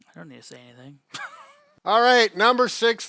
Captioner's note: laughs